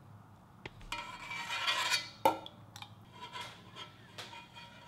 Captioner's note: utensil clanking